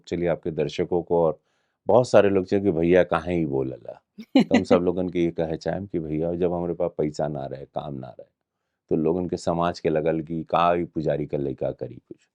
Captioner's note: in Bhojpuri